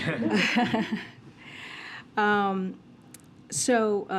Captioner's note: laughter